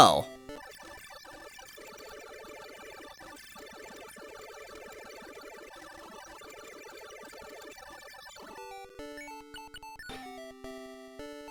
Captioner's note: awkward silence